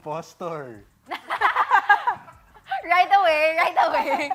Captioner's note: laughter